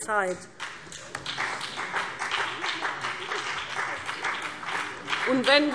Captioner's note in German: Beifall BÜNDNIS 90/DIE GRÜNEN